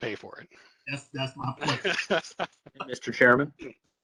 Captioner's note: laughter